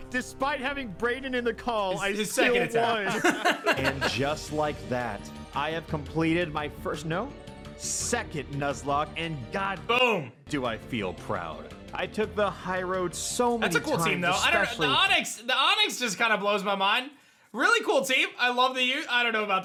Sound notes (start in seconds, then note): 2.3 laughs